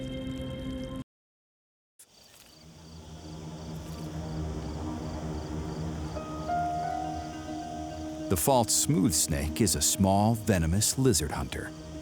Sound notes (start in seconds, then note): 2.0 crickets chirping; 2.7 light dramatic music